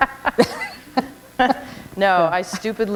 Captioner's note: laughter